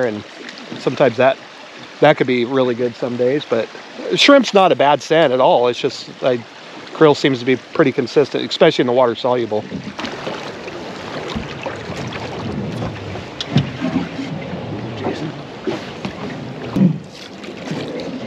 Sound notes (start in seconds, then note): 10.2 water flowing; 18.0 reel cranking